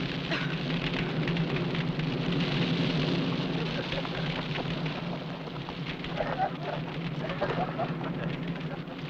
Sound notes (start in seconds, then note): 3.7 men laughing